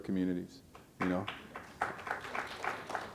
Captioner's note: applause